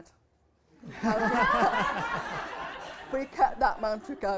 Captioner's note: laughter